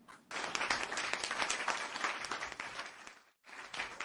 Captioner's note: applause